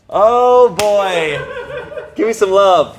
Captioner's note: crew member laughing